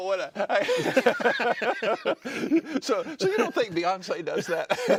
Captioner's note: laughter